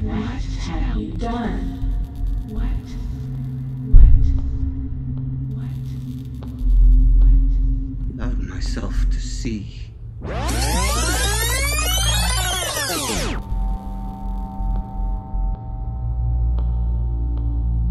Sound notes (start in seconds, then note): 0.0 foreboding music; 10.2 audio tape reversing; 13.7 eerie music